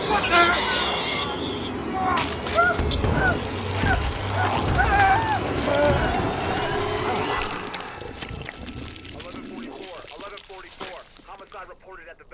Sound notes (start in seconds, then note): 0.2 creepy music; 0.2 monstrous gurgling; 1.8 sheriff screaming; 2.2 meat splattering